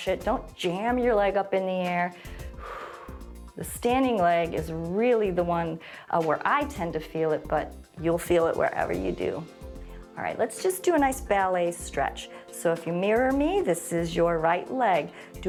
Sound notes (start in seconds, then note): 2.1 exhales